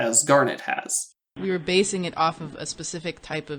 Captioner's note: audio from podcast playing